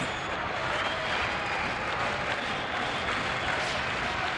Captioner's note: crowd cheering